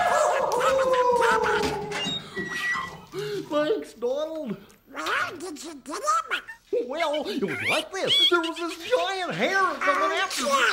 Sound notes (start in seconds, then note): 0.0 distant Goofy alarmed yelling; 1.0 background hinges creaking; 2.9 distant Goofy relieved sighing